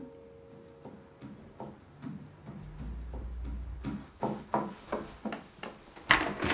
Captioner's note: gentle music plays out; footsteps clacking; door clicks